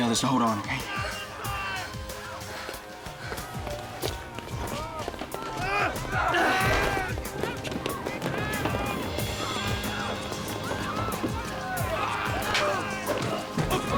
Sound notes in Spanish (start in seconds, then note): 6.6 gruñidos